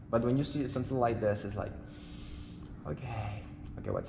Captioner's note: inhale